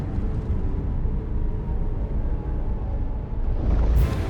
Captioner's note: wind howling